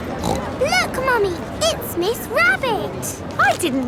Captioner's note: snorts